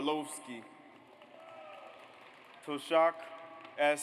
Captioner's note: audience applauds